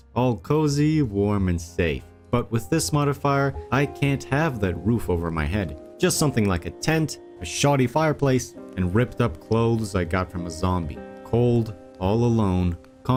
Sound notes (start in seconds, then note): none